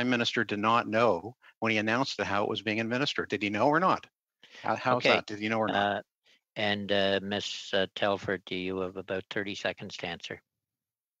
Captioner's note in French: voix de l'interprète